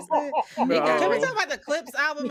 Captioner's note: laughing